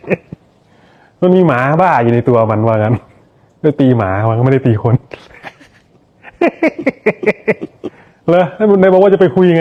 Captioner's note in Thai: เสียงหัวเราะ